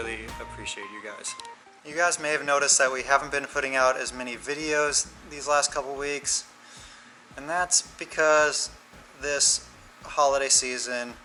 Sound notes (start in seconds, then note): none